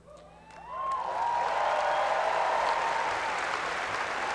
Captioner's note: cheering and applause